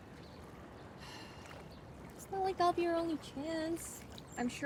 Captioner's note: Caralique sighs